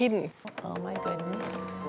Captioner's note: creaking